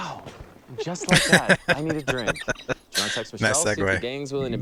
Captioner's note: laughing